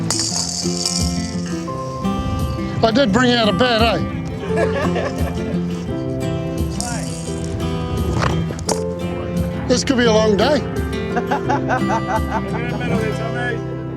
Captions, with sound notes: (BALL RATTLES) I did bring out a bat, eh. (LAUGHTER) Play. (BALL RATTLES) This could be a long day. (MAN LAUGHS)